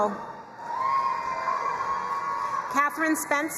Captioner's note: crowd cheering and applauding